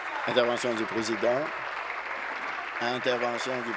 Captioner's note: applause